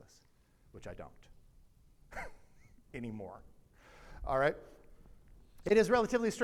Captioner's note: laughs